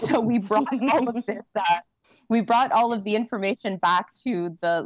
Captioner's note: laughter